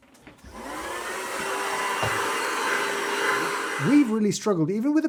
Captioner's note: vacuum whirring